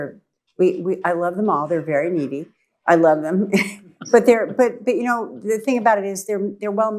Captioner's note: laughs